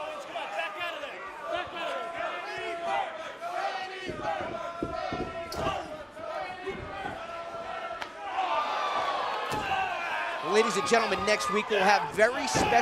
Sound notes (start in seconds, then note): 6.0 fans chanting